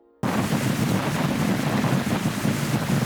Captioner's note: loud wind noise and heavy rain